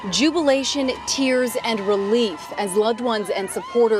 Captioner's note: cheering